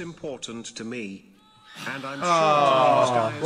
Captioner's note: crowd exclaiming